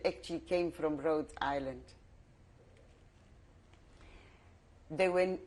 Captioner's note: pauses for 3 seconds